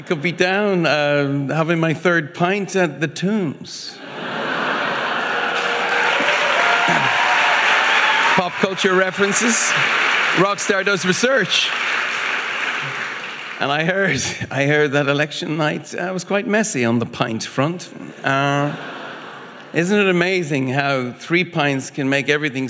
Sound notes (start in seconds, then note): 3.9 audience laughing; 6.1 audience applauding